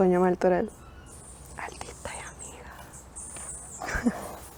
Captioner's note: whispering